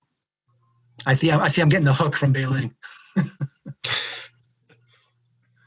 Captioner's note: chuckles